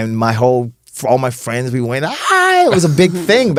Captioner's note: cheers